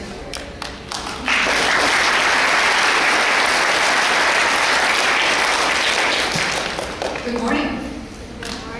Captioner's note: applause